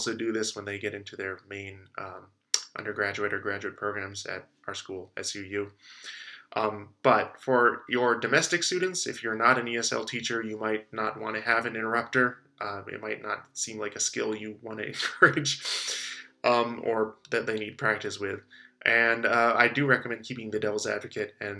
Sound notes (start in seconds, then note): 14.9 chuckles